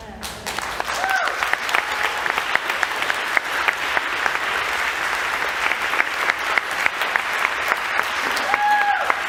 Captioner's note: applause